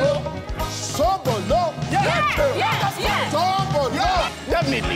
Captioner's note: group chattering